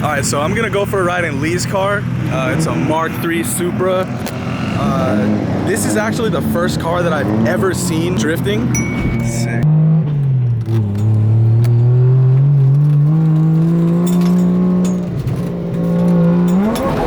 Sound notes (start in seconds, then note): 8.7 ding; 10.5 engine revs; 16.8 tires squealing